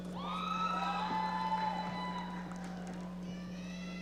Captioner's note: audience cheering